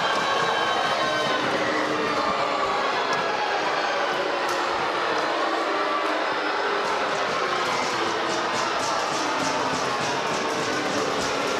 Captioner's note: crowd chatter